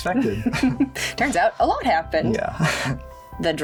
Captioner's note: chuckles